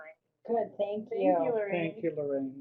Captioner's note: voiceover